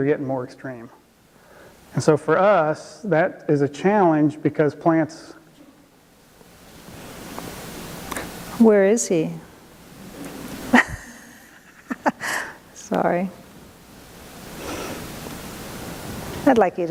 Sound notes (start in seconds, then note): 10.7 laughs